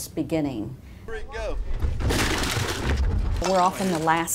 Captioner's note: crash